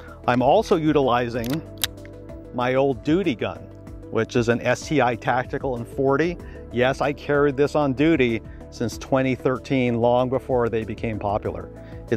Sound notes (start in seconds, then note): 1.4 gun clicking